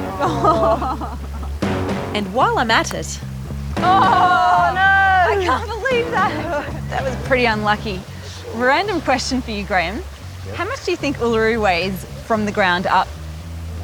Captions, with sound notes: (ALL LAUGH) And while I'm at it... (LAUGHS) Oh, no! I can't believe that! That was pretty unlucky. Random question for you, Graham - how much do you think Uluru weighs from the ground up?